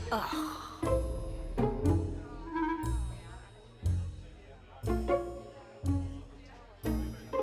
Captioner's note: playful music; guests chattering